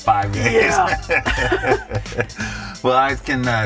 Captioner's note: laughing